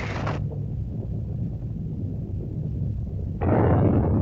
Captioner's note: volcano rumbles; explosion